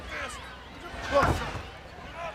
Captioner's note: crowd cheering